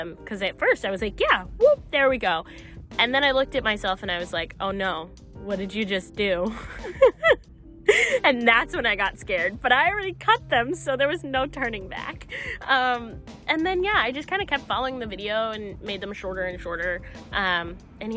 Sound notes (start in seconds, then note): 6.5 giggling